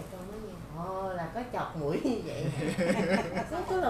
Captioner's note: laugh